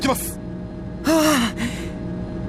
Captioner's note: relieved sigh